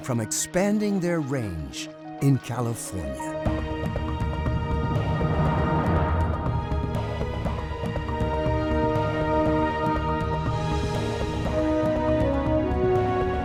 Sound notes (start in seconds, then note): 0.1 suspenseful music; 3.8 uplifting music; 4.6 water bubbling